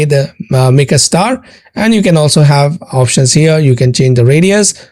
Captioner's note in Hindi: नाक से की जाने वाली आवाज़